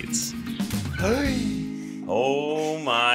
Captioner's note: gasps